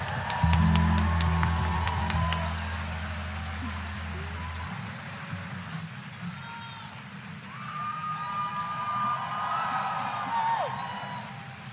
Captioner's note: applause